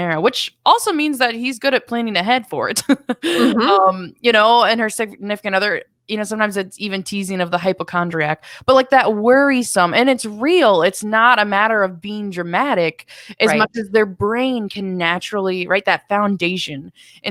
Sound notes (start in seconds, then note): 2.9 laughs